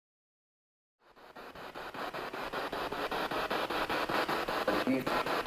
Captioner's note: noise of the spiritbox in the background